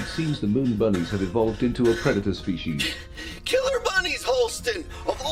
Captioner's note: gasping for breath